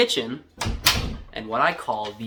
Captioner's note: door closes